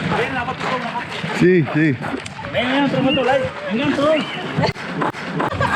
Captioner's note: speaking in foreign language